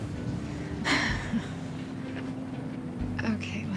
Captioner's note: laughing